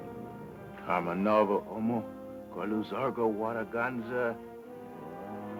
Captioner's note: speaking foreign language